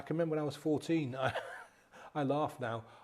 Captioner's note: chuckles